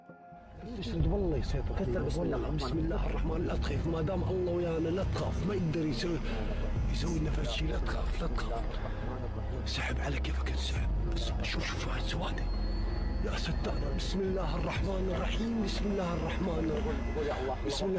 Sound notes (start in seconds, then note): 0.7 men speaking in foreign language; 5.7 eerie music